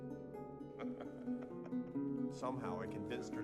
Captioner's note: laughing